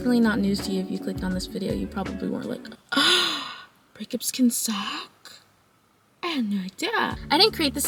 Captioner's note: gasp